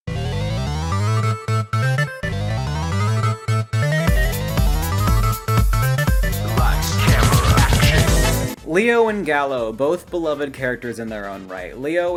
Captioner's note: voice cracking sigh